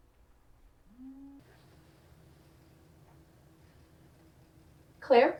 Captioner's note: cell phone buzzing